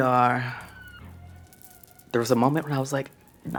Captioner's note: beads clack